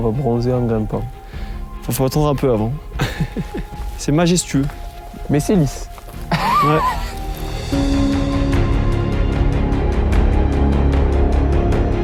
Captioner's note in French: rire